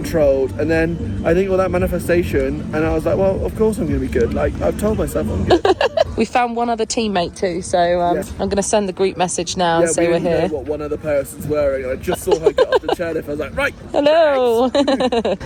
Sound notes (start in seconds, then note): 5.5 laughs; 13.6 laughs